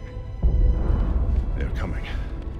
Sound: muffled explosion

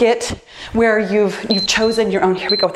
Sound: timer beeps

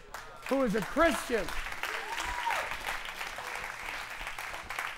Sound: applause

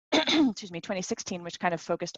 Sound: clears throat

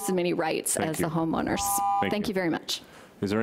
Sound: beep

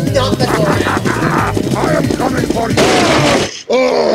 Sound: crashes into a door

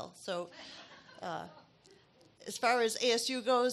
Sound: audience laughs

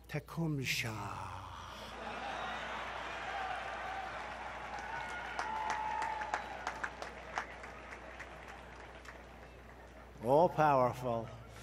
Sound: applause

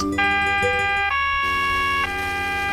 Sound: police siren

